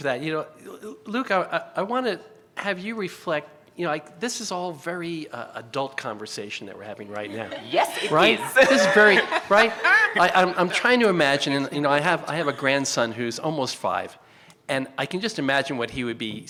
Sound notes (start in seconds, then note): 7.9 chuckles; 9.9 panelists chuckle